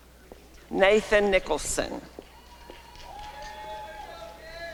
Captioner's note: applause and cheering